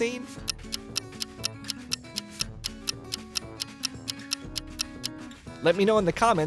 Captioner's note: clock ticking